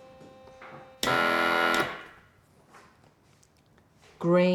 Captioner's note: machine blaring